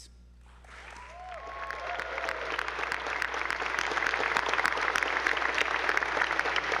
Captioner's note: attendees applauding; audience whooping